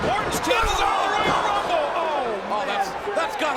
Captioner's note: audience groans